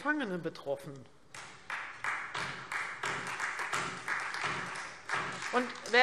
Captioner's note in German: Beifall Freie Demokraten und vereinzelt DIE LINKE